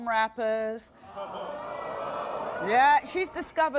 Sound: audience gasping

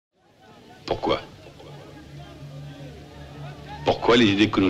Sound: foreign language

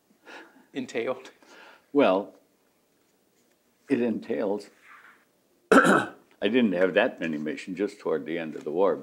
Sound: clears throat

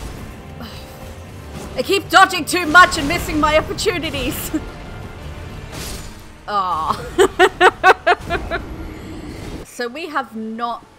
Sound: sigh; laughter

